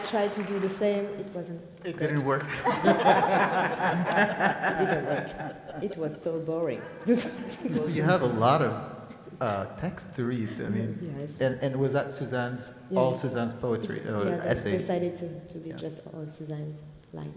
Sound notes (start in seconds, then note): 2.0 people laugh